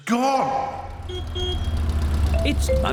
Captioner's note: horn honks